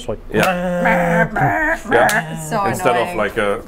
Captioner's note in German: stöhnt